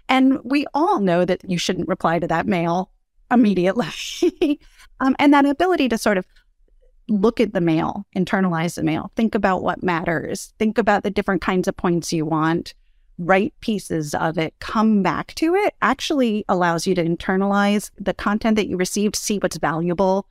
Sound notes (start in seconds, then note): 4.0 laugh